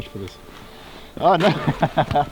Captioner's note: laughs